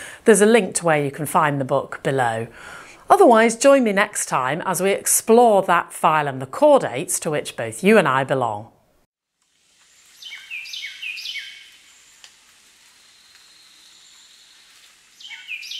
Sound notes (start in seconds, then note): 10.1 birds chirping